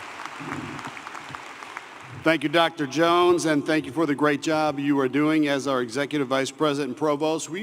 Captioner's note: applause